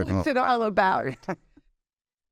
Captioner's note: both laughing